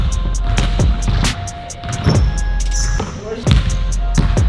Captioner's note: ball bounces